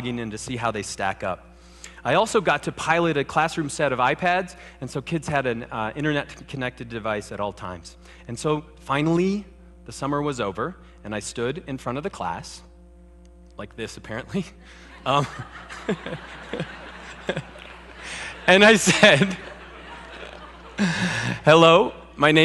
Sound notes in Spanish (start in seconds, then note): 14.7 Risas